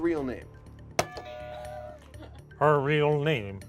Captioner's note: buzzer rings